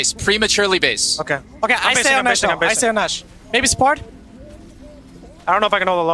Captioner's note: teammates communicating